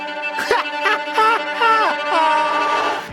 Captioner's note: maniacal laughing